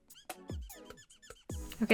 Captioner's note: marker speaking in squirrel